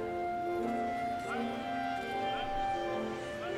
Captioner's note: none